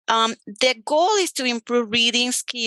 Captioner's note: none